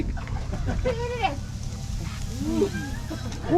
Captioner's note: sizzling